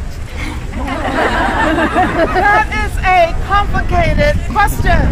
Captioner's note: some laughter